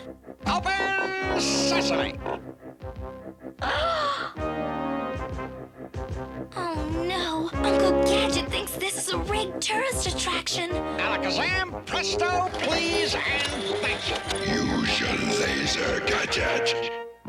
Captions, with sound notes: OPEN SESAME. [GASPS] OH, NO! UNCLE GADGET THINKS THIS IS A RIGGED TOURIST ATTRACTION. ALAKAZAM, PRESTO, PLEASE, AND THANK YOU. USE YOUR LASER, GADGET!